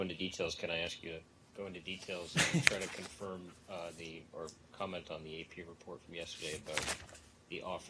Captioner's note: laughter